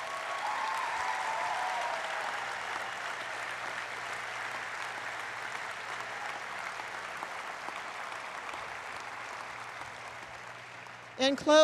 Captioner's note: applause